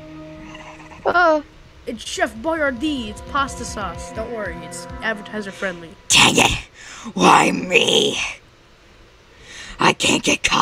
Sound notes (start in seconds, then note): 1.1 pathetic scream